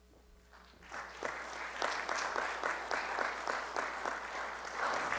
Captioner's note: audience clapping